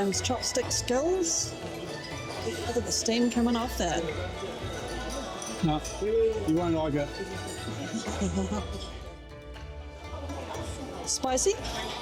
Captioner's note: laughing